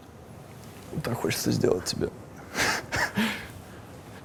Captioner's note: chuckles